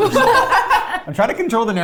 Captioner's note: laughs